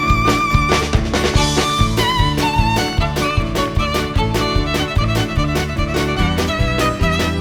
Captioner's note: audience clapping in time